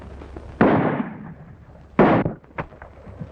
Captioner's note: gun fires